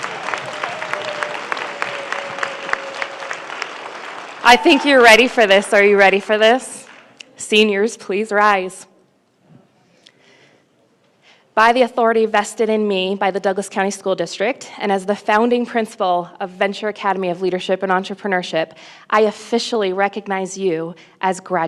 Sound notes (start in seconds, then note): 3.5 applause